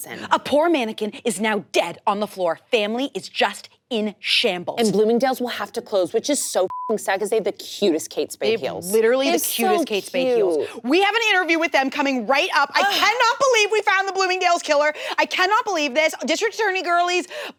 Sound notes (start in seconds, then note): 6.7 beep